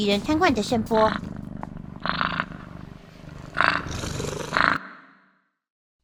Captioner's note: snores